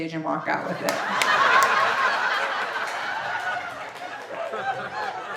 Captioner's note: audience laughing